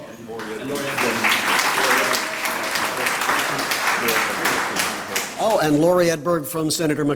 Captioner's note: applause